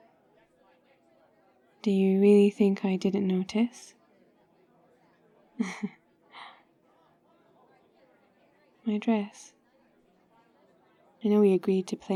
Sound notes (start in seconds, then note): 5.6 laughs; 8.8 quietly